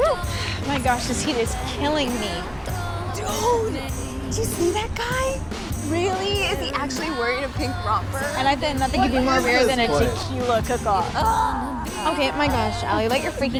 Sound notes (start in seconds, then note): 11.3 Allie groans